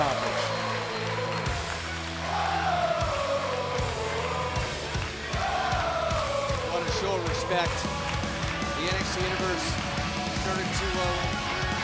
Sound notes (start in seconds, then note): 2.8 crowd cheering